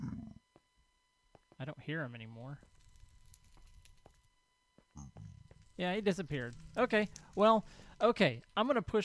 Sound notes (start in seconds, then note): 2.7 crackling fire; 3.4 pigman grunts